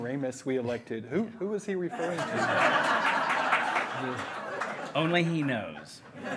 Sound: hearty laughing

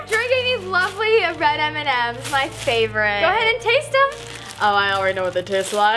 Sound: none

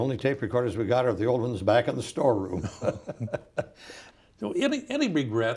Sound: laughs

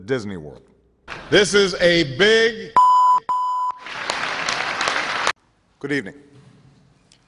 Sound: applause

